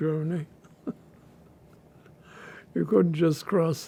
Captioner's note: laughing